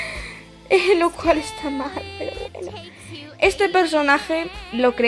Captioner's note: laughs in pain